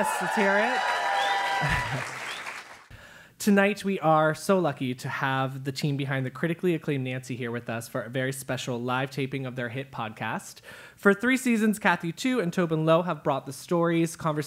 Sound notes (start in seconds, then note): 0.0 applause; 1.4 laugh